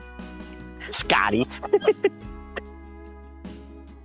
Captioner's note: chuckles